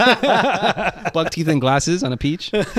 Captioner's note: laughing